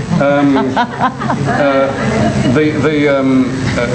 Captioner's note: crowd laughs